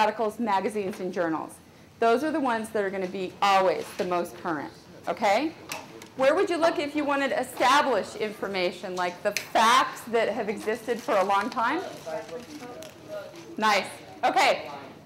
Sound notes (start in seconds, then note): 12.0 audience talking